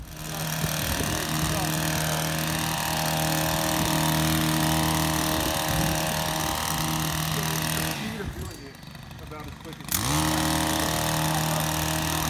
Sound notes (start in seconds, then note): 0.1 machine whirring